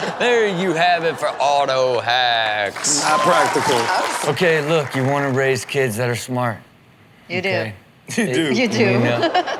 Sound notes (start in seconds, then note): 1.8 audience cheers